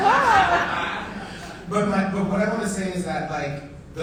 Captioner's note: audience laughing